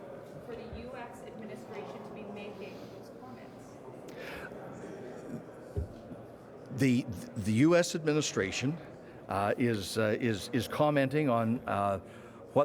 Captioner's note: shouting